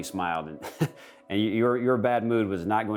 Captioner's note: man chuckling